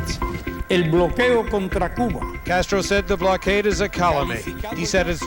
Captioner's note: speaking in Spanish